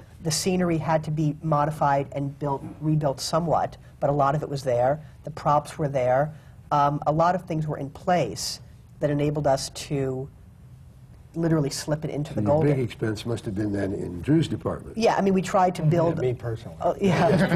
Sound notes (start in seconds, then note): 15.5 laughter